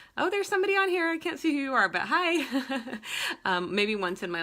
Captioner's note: laughs